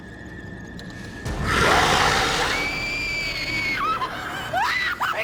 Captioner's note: growling; screaming